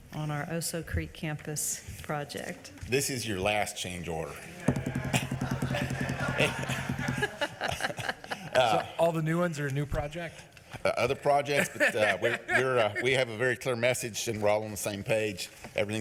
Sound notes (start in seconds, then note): 4.7 audience laughing; 11.3 laughs